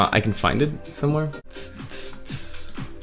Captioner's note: beatboxes